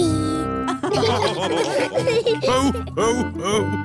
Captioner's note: all laughing